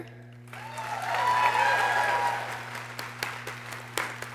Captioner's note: people cheering